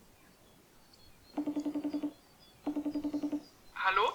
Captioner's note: voice call connecting sounds